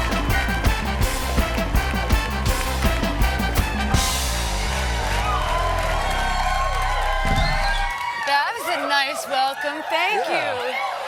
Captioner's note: cheers and applause